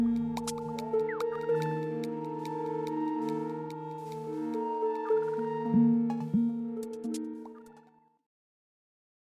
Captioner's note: game audio